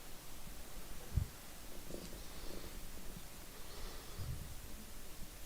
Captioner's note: none